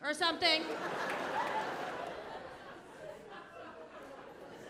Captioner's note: audience laughing